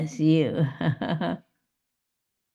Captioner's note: laughs